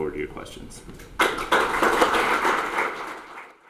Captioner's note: audience Applause